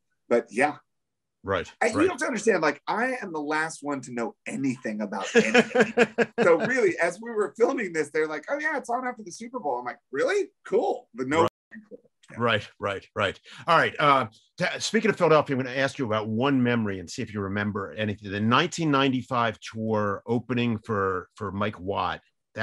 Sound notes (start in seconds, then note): 5.2 laughs